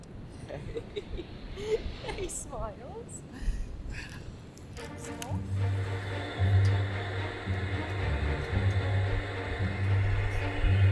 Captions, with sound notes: (chuckling) Hey, hey, smiles. (uptempo orchestra music)